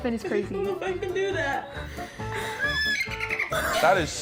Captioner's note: neighs